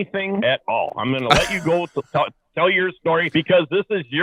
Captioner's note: laughing